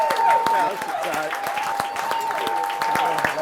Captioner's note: applause